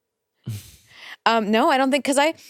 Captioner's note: chuckles softly